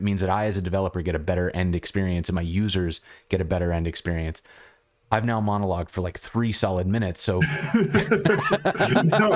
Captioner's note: laughter